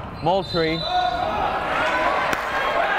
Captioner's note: whistle blowing; clapping